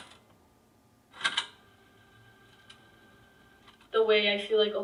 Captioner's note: sound of tape ending; sound of tape starting